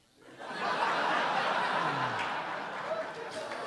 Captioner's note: audience laughing